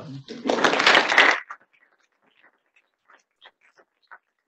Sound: audience applauding

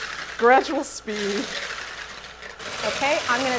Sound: mixer whirring

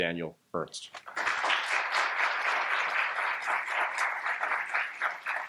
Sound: applause

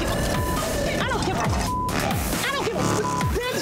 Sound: beeps

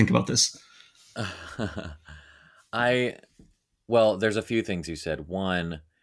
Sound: laughing

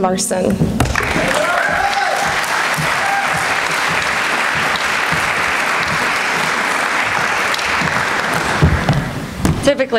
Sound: applause

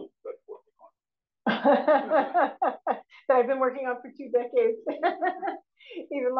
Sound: laughs

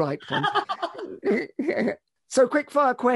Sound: laughs

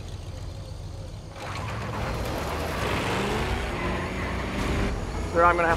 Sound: engine Revving

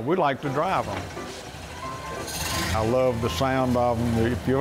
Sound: motor chugging

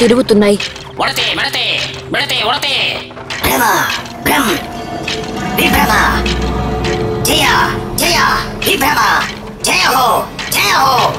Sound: chants

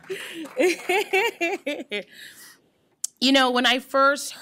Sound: laughter

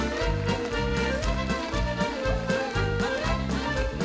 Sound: audience clapping

